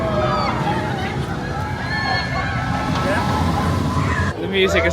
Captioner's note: people scream on rollercoaster